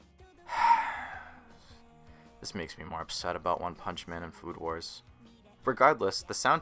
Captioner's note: sigh